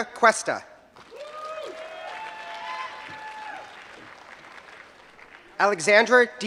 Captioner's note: applause